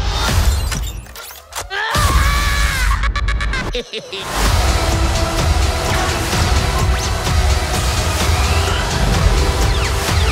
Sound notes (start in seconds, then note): 1.7 screaming; 2.8 chuckling